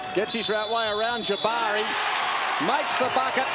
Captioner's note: cheering and applause